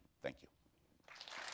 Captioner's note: applause